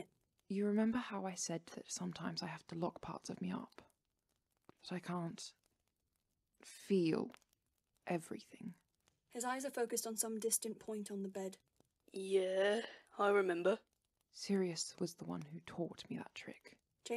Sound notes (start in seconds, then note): none